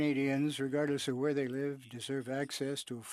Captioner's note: speaking French